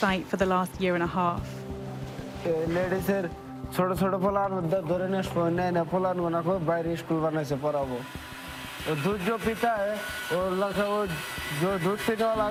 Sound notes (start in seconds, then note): 2.5 speaking foreign language